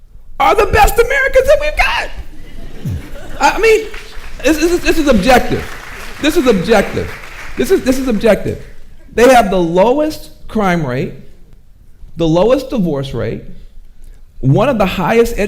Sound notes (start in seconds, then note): 2.3 audience laughing; 5.5 audience applauding